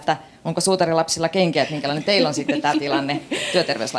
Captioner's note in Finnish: naurua